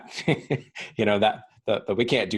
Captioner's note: laughing